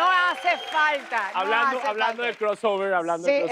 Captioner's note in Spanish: Aplausos